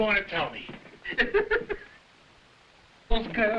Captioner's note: Burgomil laughing